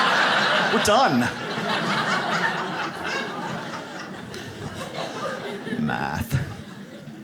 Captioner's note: audience laughs